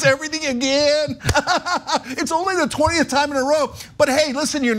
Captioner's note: laugh